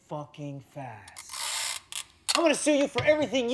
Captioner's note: sound of scotch tape